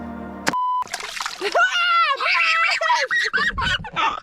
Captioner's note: beep; yelling; laughing